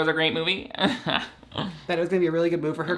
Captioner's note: chuckles